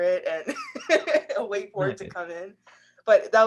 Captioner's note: laughs